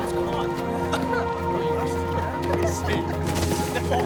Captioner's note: chuckles; laughter